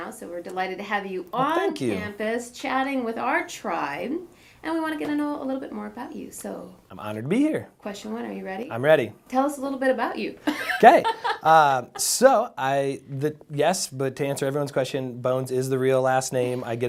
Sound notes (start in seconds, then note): 10.4 laughs